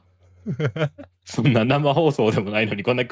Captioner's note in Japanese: 笑い